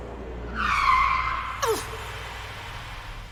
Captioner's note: brakes screech